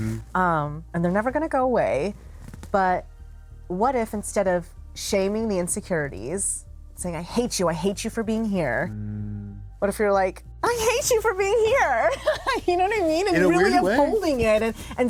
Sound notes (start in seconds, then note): 10.6 joyfully; 12.1 laughs